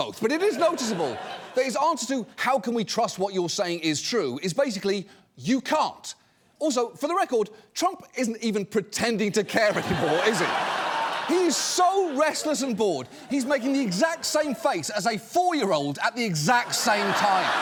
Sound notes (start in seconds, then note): 9.6 audience laughing